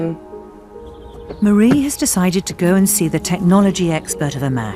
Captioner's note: voiceover